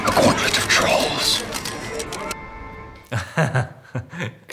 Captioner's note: cameras clicking; Robert laughs